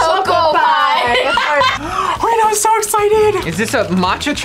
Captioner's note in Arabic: شهقة